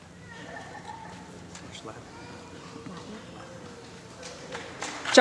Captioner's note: applause